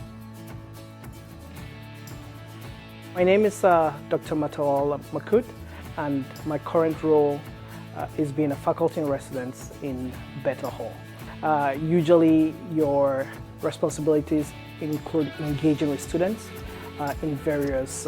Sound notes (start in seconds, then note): none